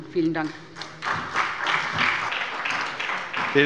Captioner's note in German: Beifall bei der SPD